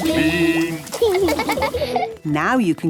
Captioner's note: laughing